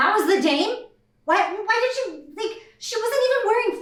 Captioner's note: befuddled sputtering